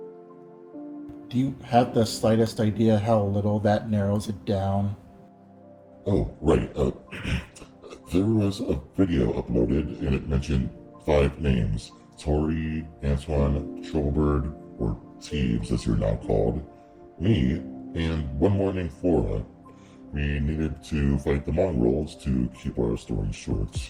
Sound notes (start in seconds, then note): 7.0 clears throat